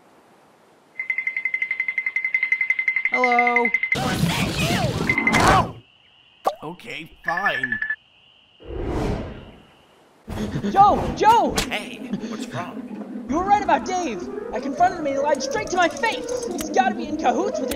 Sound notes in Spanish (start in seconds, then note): 12.1 heavy breathing